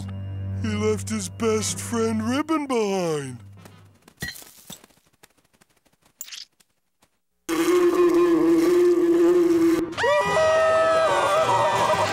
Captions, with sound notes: He left his best friend ribbon behind. [buzzing] [screaming]